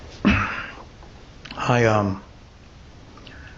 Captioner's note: clears throat